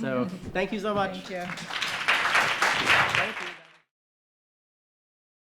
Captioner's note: audience applauding